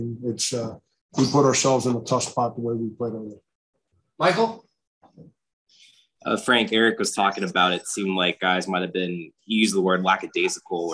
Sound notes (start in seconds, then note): 4.3 male Voice